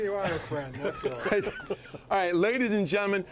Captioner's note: all chuckling